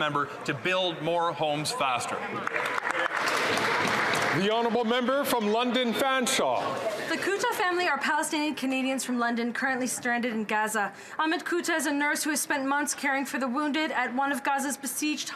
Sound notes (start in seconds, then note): 5.2 some Applause